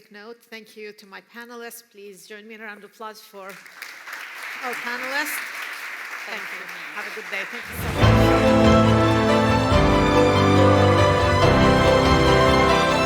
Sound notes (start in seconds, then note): 5.1 applause